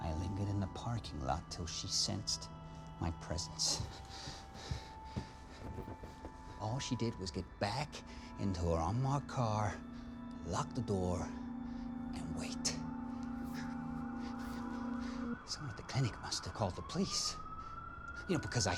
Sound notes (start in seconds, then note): 5.9 heavy breathing